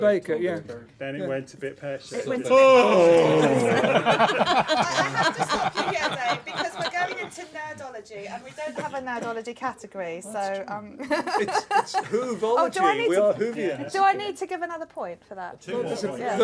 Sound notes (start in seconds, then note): 2.5 laughter; 11.0 laughter